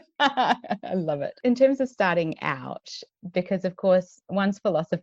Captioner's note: laughs